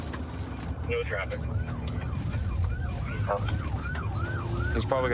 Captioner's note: sirens wailing